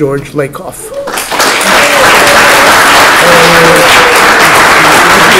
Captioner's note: applause